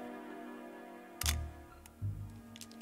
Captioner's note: shutter clicks; mellow music